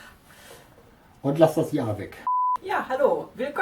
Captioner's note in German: Aus dem Off